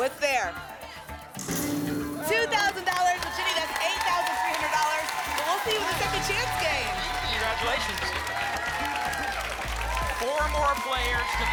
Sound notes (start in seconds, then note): 8.7 applause and cheering